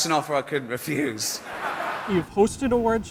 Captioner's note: audience laughs